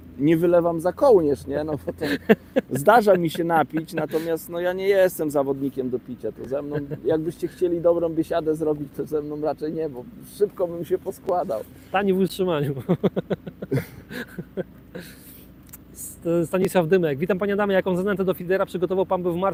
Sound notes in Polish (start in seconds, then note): 12.7 śmiech